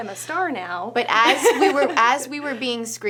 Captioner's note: laughs